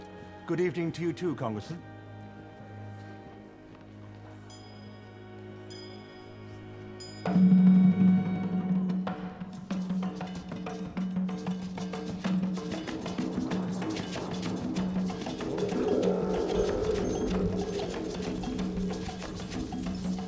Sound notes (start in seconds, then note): 4.7 bell rings; 7.2 drumbeats